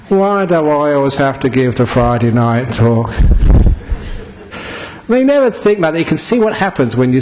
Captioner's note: laughter